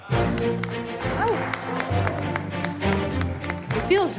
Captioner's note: applause